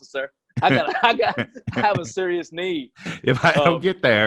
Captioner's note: laughs